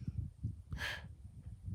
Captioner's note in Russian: вздох